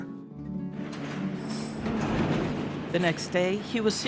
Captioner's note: bars clanging